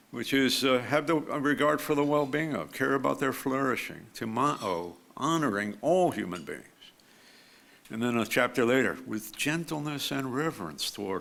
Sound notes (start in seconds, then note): 4.8 speaks foreign language